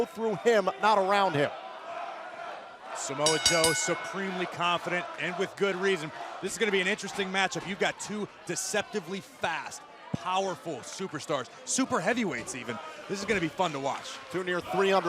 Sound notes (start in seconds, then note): 1.3 crowd cheering; 3.2 bell ringing